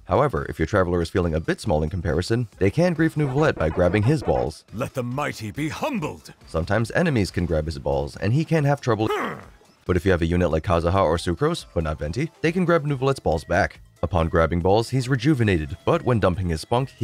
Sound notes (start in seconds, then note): 9.0 grunt